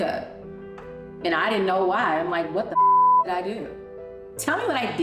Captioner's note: beep